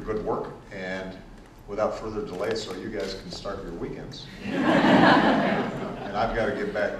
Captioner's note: laughter